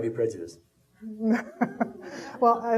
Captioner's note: laughing